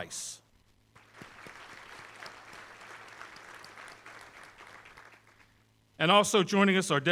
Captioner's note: applause